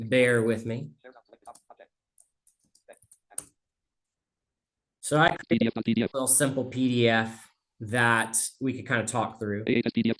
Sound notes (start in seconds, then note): 1.4 screen reader narrating extremely rapidly